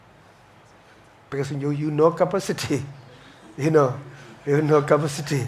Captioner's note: audience chuckles